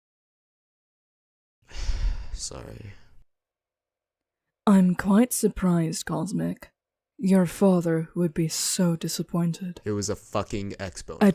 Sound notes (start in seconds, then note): 1.7 cosmic sighs